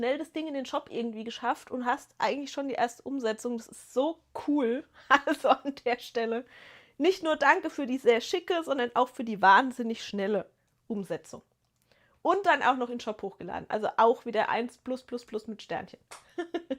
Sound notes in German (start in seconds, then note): 5.1 gelächter